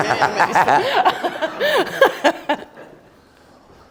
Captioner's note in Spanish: Risas